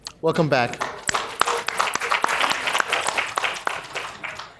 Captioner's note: applause